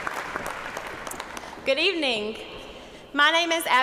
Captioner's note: cheers and applause